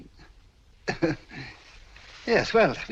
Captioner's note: chuckles